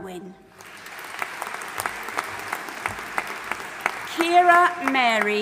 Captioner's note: audience applauding